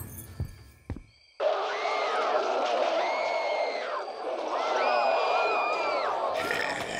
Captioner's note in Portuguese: gritos e rosnados